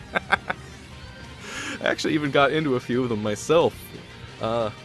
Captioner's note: laughs; laughs